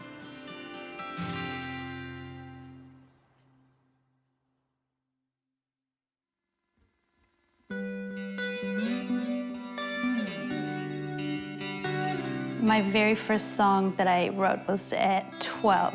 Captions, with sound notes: (SILENCE) (POIGNANT MUSIC) My very first song that I wrote was at 12.